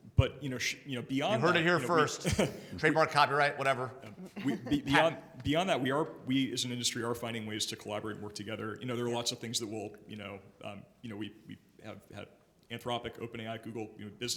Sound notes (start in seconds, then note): 2.2 chuckles; 4.1 chuckles